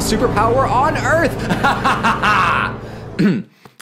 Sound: evil laugh

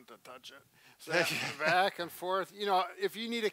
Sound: laughs

